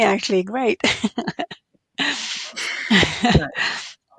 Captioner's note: both laugh